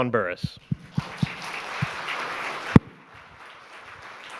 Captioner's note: audience clapping